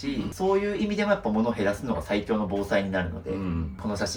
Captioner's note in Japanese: 咳払い